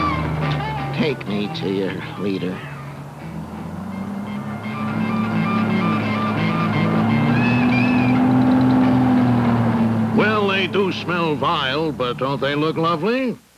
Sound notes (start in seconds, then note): 0.0 music, then a bus roars up; 2.8 music, bus engine